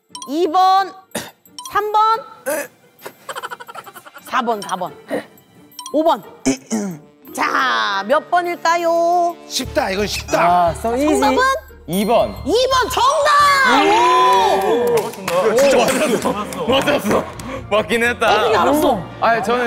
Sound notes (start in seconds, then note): 3.2 muted laughter